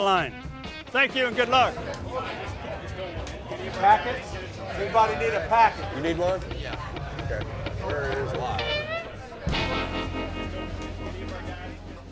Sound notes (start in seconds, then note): 3.4 voiceover; 7.0 voiceover; 8.5 cooks chatting